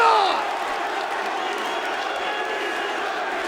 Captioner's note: crowd exclaiming; crowd chanting